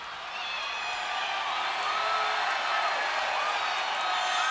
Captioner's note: crowd cheers